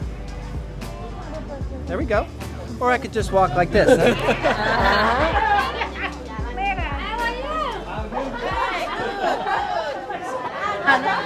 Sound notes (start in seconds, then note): 3.7 laughing; 8.1 laughing